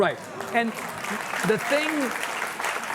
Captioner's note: audience clapping